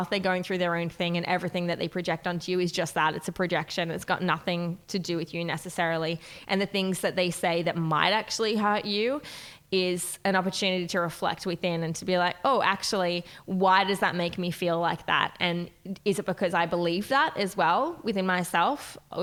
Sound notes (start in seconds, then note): none